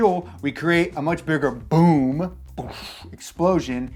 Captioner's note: blowout sound